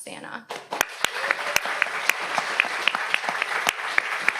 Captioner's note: audience applauds